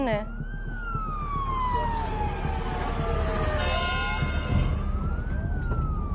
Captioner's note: sirens blaring